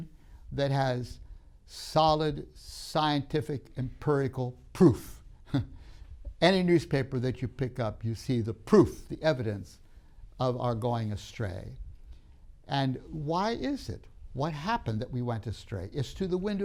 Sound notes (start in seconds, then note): 3.9 laughs